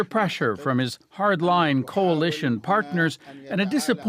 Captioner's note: speaking alternate language